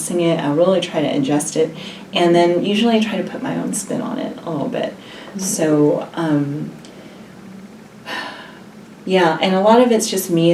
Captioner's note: sighs